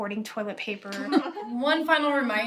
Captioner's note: staff chuckle